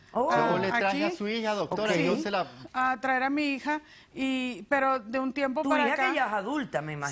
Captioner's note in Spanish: Hablan al unísono